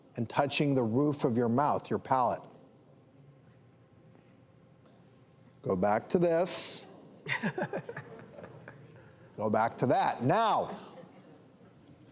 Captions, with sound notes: and touching the roof of your mouth, your palate. Go back to this. (laughter) Go back to that, now.